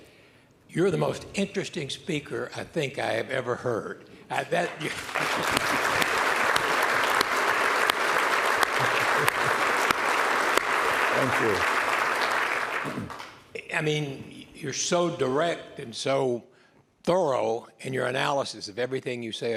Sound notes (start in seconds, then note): 4.9 laughter